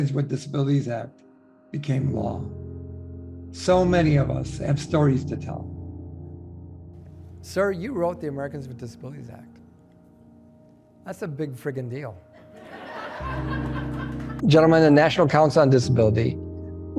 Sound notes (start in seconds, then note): 12.4 audience laughs